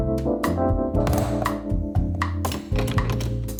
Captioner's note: portafilter clacks; portafilter rattling